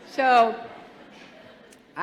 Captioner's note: laughter